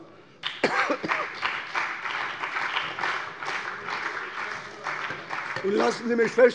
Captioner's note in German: Beifall bei der CDU und dem BÜNDNIS 90/DIE GRÜNEN